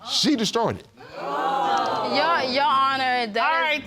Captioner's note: audience exclaims